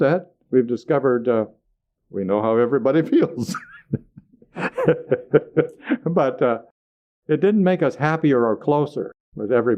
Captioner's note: laughter